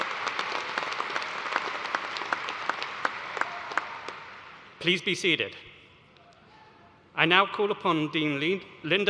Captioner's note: applause